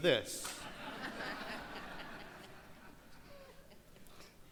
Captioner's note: crowd laughs